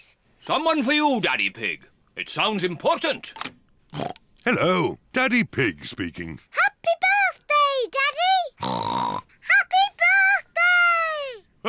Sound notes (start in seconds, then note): 4.0 oinks; 8.6 oinks